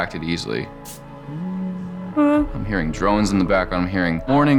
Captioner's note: hums